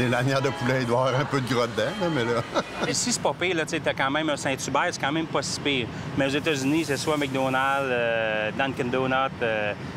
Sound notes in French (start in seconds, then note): 2.3 rire